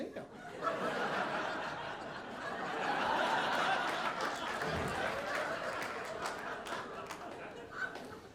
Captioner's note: audience laughing